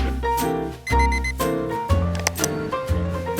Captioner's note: alarm beeps